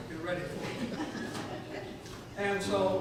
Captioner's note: audience chuckles